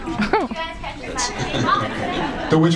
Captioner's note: laughs